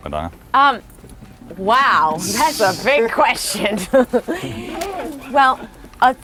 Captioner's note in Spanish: laughs